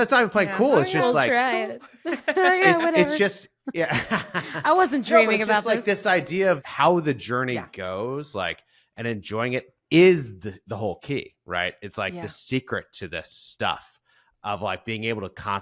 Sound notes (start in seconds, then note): 1.8 chuckles; 4.2 laughs